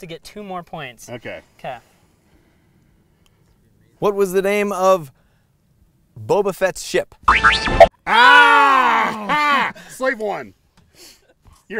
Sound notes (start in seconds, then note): 7.4 both yelling